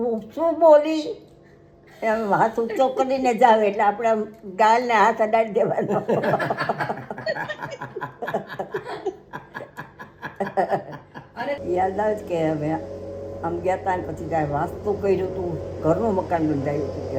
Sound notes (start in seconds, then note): 5.6 laughter